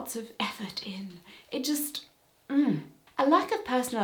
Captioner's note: frustration noise